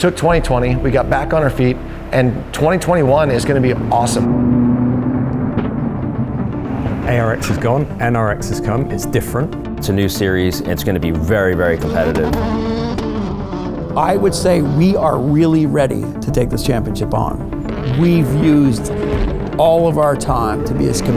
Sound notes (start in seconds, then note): 5.4 engines revving